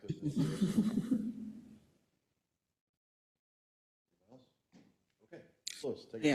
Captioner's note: laugh